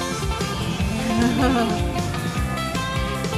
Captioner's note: upbeat rock music continues; laughs; upbeat rock music continues